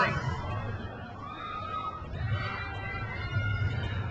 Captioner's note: crowd cheers